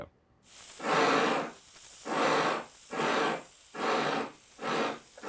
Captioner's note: chuffing